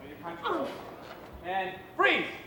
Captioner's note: woman grunts